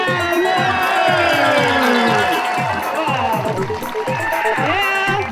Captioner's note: audience cheering and applauding